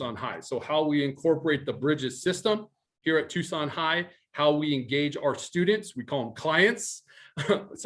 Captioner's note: dorky laugh